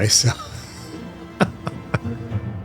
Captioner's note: laughs